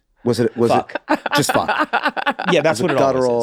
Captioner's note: laughs